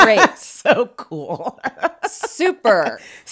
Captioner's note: laughs